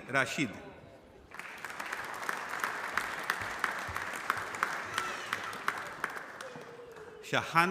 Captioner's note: applause